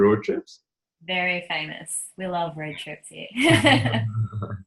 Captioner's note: laughs